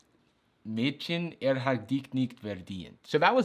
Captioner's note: speaks German